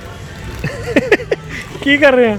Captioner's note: laugh